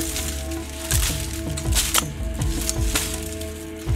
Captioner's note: machete cutting through brush